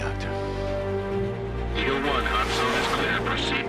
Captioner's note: colonel on radio